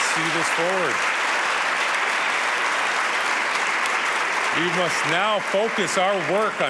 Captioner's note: applause